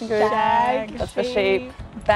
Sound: friends in unison

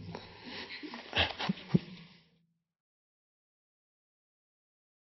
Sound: Eckhart laughing

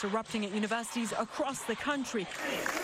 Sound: crowd chanting

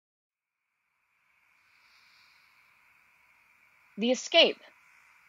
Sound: ambient outdoor night sounds

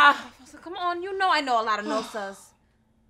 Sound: Efosa sighs

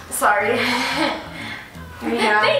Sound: nervous laughing

